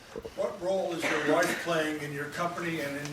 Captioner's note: voiceover